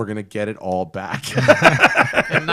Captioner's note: laughter